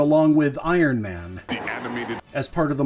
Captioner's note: deep announcer voice